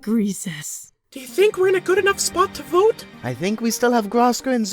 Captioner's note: whispering